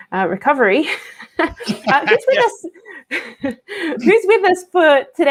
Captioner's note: both chuckling